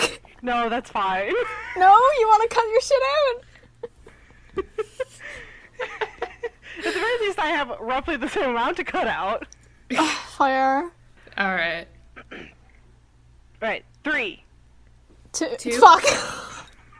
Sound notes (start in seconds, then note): 3.5 quiet laughter; 9.9 exhaled 'ugh'; 12.2 clears throat; 15.9 wheezing laughter